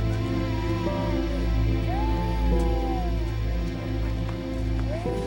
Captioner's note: baby crying